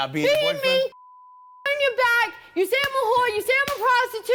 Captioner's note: beep